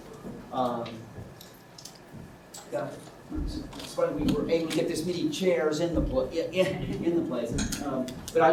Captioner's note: laughs